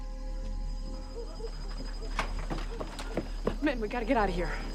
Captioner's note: dogs Barking In Distance